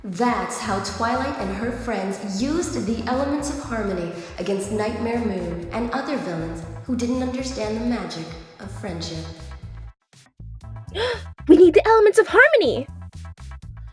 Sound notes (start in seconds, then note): 10.9 Light Heart gasps